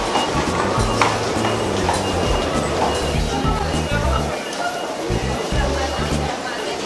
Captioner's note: upbeat music; crowd chattering